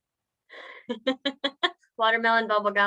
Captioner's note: laughs